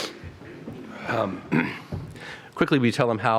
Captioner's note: cough